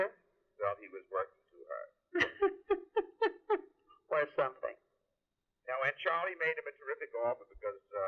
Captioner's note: laughs